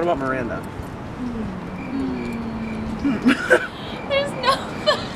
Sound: crickets Chirping

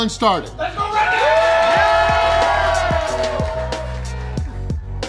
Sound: crowd

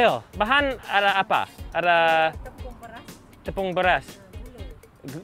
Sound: speaks foreign language

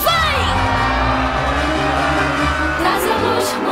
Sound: crowd cheering

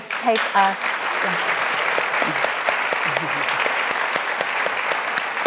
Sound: audience applauding

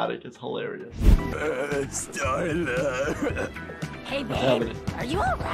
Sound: chuckles

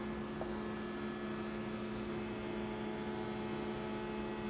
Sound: soft whir of a motor

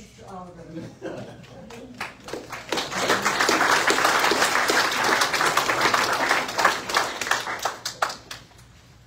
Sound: audience applauds

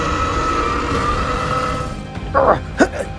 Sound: Scorpius roaring

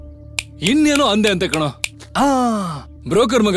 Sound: snaps finger

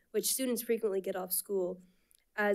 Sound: none

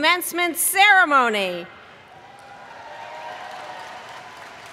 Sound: cheering

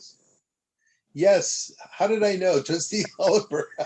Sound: laughter

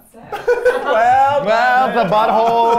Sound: all laugh

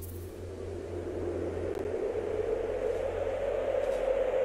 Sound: howling wind

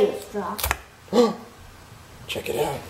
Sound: gasping

